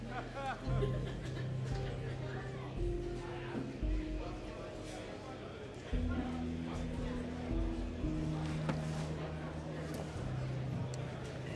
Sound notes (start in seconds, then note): 0.1 man laughs; 3.5 people murmuring